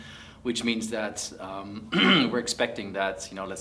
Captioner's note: cough